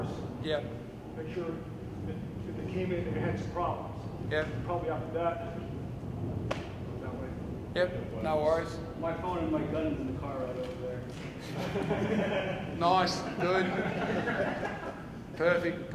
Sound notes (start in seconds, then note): 11.3 audience laughs